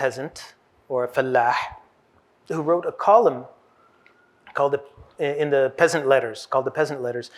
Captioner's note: hebrew